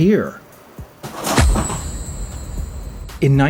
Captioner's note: mystical Poof